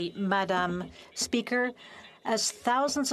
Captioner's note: speaking French